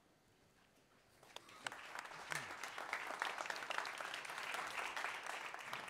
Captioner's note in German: applaus